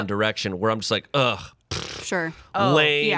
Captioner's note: blows raspberry